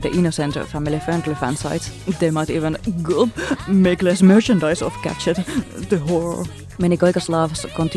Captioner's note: gulp